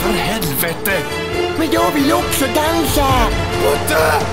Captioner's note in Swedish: mörk röst